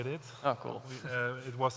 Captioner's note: chuckles